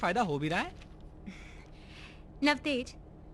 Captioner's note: chuckling